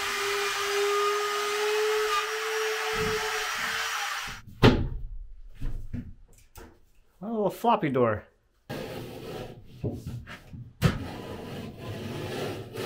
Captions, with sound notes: (banging on board) A little floppy door.